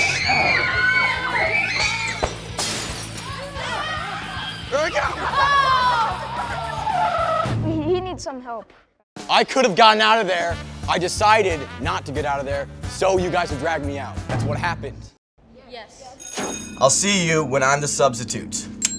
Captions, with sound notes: [screaming] [smashing] - Here I come! - Oh! He needs some help. I could have gotten out of there, I decided not to get out of there, so you guys would drag me out, that's what happened. - Yes. - Yes. I'll see you when I'm the substitute.